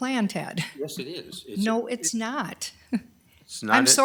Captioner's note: laughs